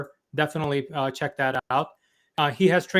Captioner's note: mouse clicking